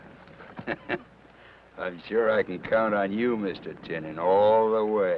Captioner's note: chuckles